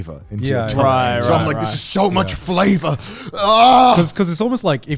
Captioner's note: screams